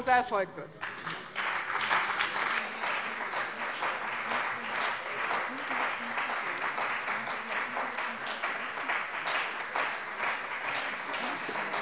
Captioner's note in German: Anhaltender lebhafter Beifall bei dem BÜNDNIS 90/DIE GRÜNEN und der CDU